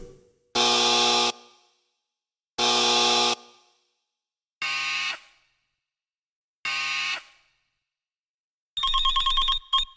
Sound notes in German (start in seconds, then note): 5.4 Summergeräusch